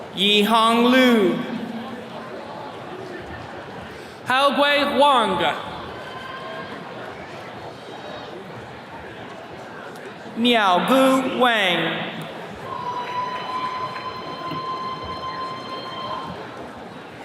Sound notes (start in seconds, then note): 13.3 attendee cheering